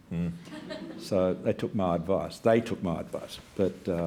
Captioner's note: laughter